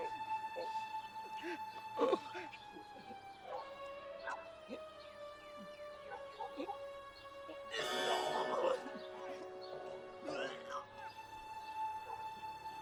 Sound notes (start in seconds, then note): 7.7 Stu vomiting